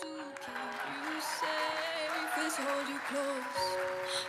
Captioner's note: audience applauding